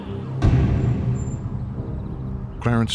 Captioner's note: gavel pounds